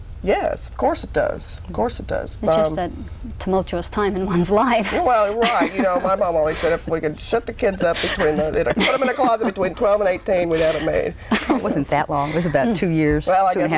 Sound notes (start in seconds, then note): 10.7 laughs